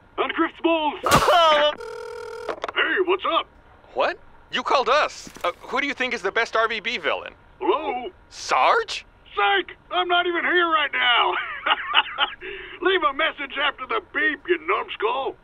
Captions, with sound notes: And grif’s balls! (Grif yelps in pain) Hey, What's up? - What? You called us. Who do you think is the best RvB villain? Hello? - Sarge? Sike! I'm not even here right now. (Sarge laughs) Leave a message after the beep, ya numbskull.